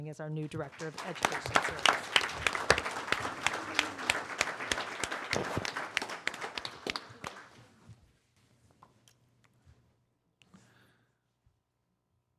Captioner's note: applause